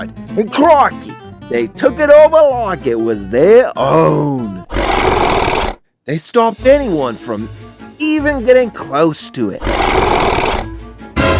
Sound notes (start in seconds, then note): 4.3 dinosaur Sound